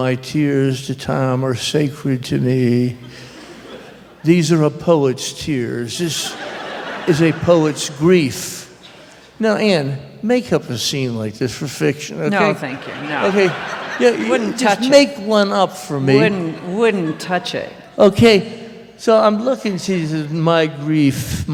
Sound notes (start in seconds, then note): 6.0 laughter; 12.4 laughter